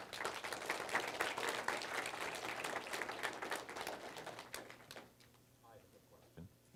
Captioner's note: applause